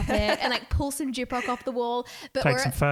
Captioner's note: voice muffled